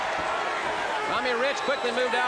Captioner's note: crowd cheering